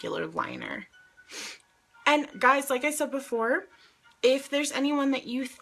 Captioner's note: sniffs